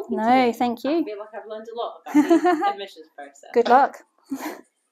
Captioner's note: laughter